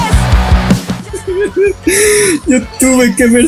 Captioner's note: cry